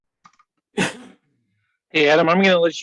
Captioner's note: man coughing